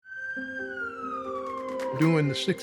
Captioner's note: siren blaring